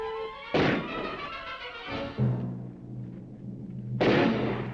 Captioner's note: dramatic music; guns firing